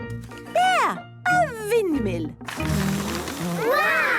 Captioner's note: blows